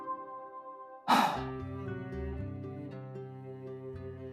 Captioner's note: sigh